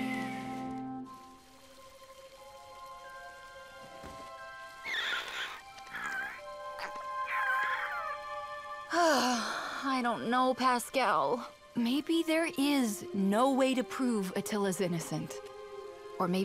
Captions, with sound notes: (squeaking) (sighs deeply) I don't know, Pascal. Maybe there is no way to prove Attila's innocent.